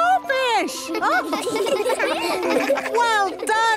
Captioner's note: children laughing